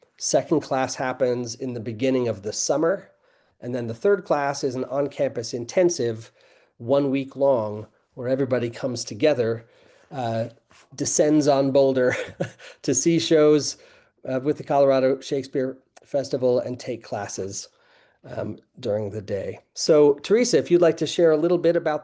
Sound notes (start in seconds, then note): 12.0 laughing